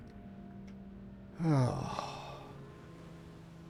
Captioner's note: sigh